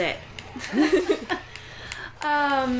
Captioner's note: laughter